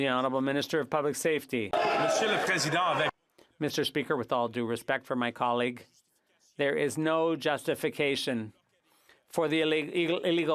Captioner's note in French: applaudissements